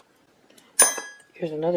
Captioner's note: clank